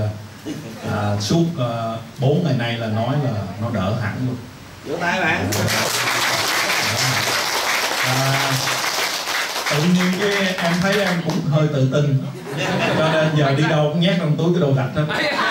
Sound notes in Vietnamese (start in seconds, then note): 5.5 tiếng vỗ tay; 12.4 cười